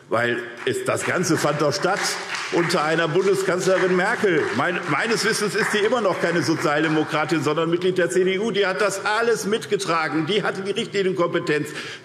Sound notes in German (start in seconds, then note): 8.5 Beifall SPD